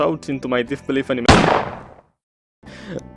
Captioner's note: gunshot